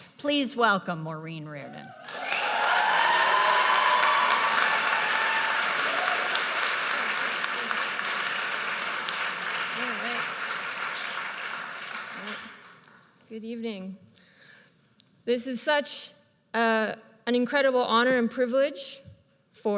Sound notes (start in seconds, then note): 2.6 audience cheers and applauds